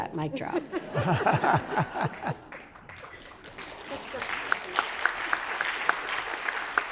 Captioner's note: everyone laughs; audience applauds